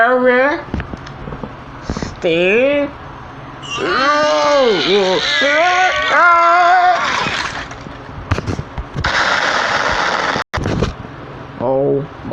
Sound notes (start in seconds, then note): 6.2 all Straining; 9.2 bomb Explodes